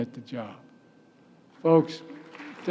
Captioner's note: applause